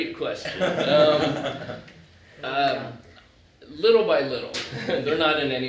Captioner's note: laughter